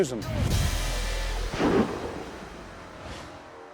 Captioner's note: gunshot